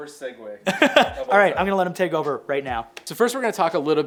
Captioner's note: laughs